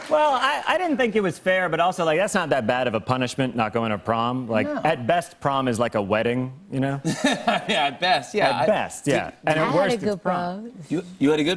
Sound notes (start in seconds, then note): 7.1 laughs